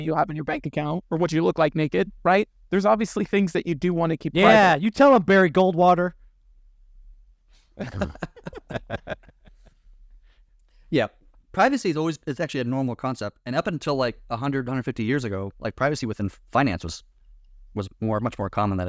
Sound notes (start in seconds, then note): 7.7 both laughing